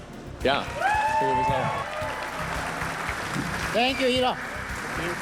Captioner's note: audience cheers and applauds